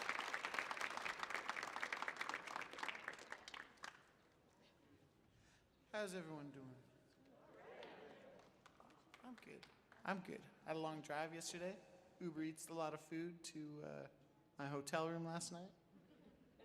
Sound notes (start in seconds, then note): 0.0 audience applauds; 7.7 audience cheers; 16.4 audience chuckles